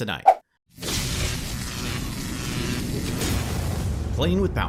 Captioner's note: electricity zapping